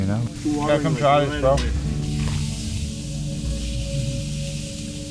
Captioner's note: meat sizzling